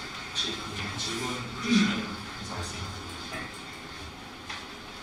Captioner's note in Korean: 목을 가다듬음